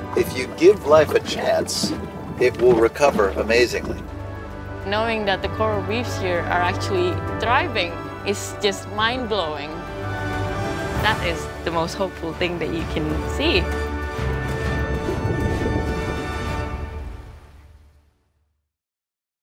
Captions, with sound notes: - If you give life a chance, it will recover amazingly. - Knowing that the coral reefs here are actually thriving is just mind-blowing. That is the most hopeful thing that you can see. (scuba divers bubbling) (uplifting music)